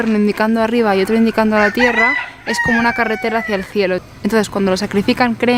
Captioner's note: sound of a rooster